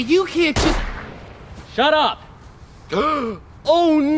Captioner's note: gunshot; gasps